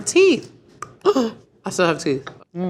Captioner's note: woman gasps